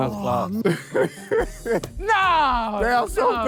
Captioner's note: laughs